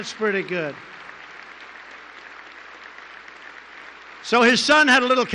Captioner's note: applause